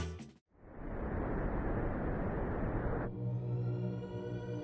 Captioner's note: wind blowing